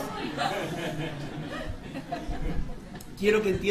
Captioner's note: laughter